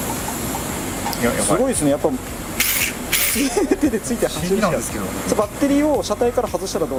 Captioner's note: laughs